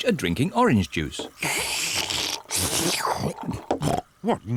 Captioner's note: both slurping